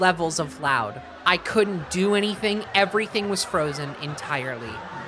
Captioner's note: laughter slowly increasing; laughter continues